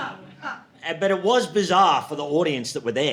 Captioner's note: audience laughing